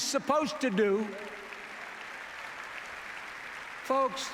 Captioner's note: applause